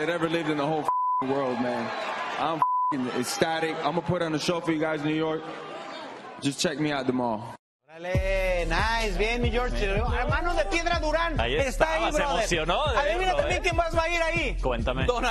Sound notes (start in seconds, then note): 2.4 hablan inglés